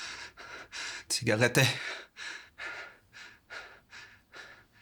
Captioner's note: speaking German; officer huffing